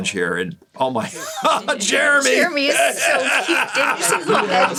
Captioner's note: laughing